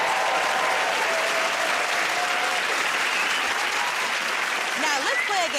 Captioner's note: cheers and applause